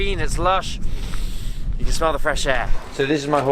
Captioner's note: sniffs